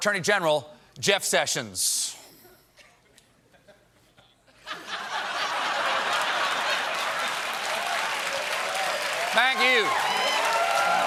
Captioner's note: laughter